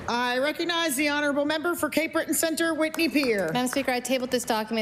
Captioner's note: applause